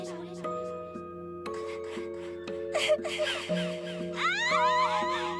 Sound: crying

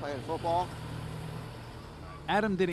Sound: truck whoosing

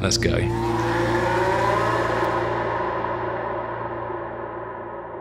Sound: engine roar fading

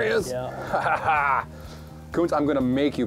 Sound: laughs

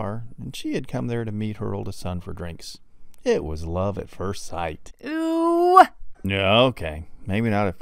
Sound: man's voice; man's voice

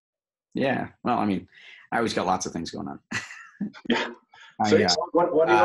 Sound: chuckle

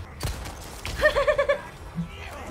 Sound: nervous laugh

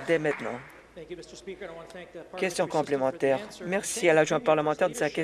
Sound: some Applause

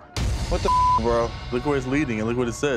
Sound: beep

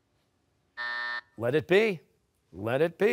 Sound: buzzer

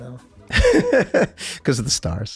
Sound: Rob laughs

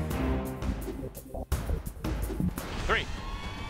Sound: whoosh! Whoosh!

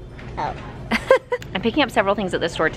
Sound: laughs

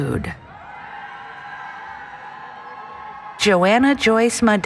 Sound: cheering

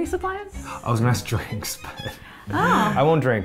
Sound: laughs

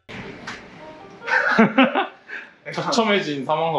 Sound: insane laugh

